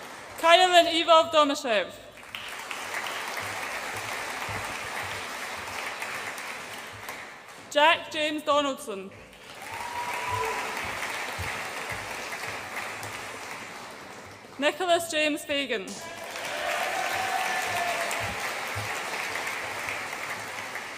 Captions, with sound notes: Kaloyan Ivov Domuschiev. (AUDIENCE APPLAUDS) Jack James Donaldson. (AUDIENCE APPLAUDS AND CHEERS) Nicholas James Fagan. (AUDIENCE APPLAUDS AND CHEERS)